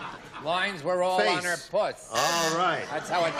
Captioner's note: laughs